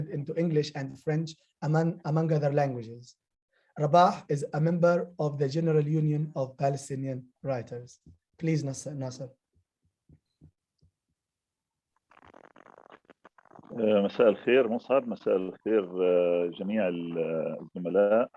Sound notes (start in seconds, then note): 15.2 speaking arabic